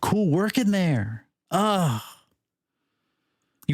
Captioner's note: sighs